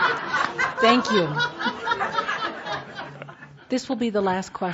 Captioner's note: laughter